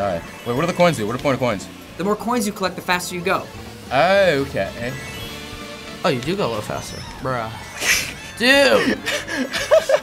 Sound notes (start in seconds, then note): 7.6 scoffs; 7.8 laughs